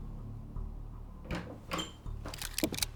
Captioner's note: distant squeak